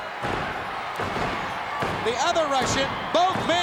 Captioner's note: ground slamming